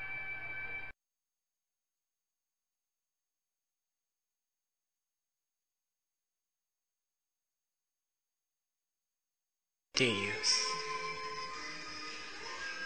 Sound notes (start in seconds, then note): 0.0 silence